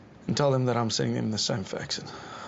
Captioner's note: sighs